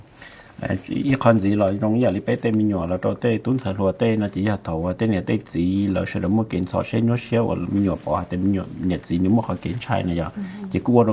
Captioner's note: Speaking in Hmong